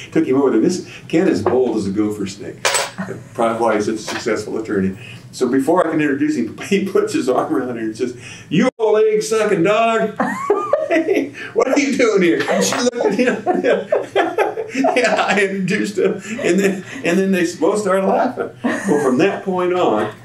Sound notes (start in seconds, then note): 13.3 laughter